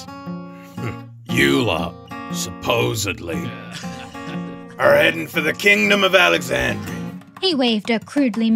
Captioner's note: background laughter